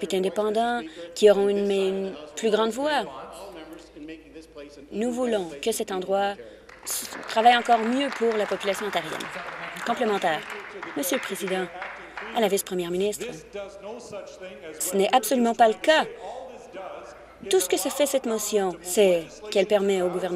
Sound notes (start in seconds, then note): 11.8 applause